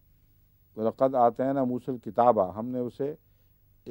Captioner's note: Arabic